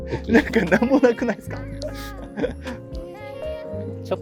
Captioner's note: laughing